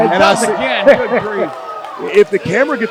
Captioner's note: laughs